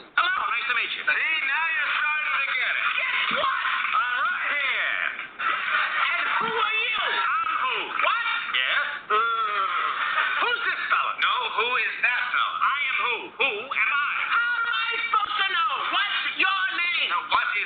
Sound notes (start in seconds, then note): 8.6 groaning